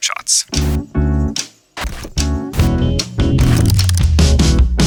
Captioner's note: overlapping sound effects